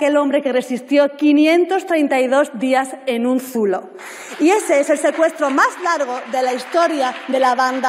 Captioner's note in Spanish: aplausos